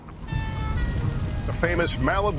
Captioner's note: siren blares